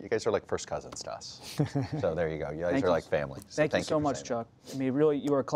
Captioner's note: laughter